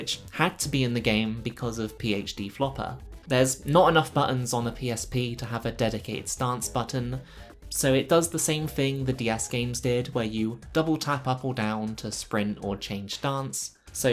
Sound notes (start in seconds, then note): none